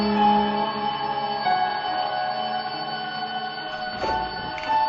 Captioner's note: alarm clock ringing